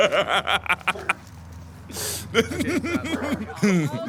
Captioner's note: laughing; more laughing